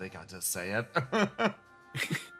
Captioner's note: laugh